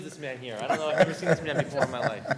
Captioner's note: laughter